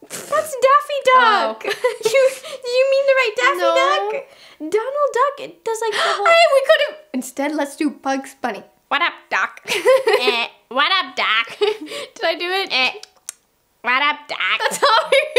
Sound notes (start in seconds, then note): 5.9 gasps; 9.7 laughs